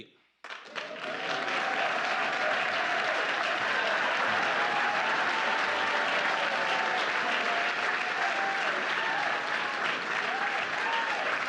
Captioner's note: applause